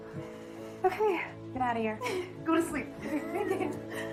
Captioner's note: laughing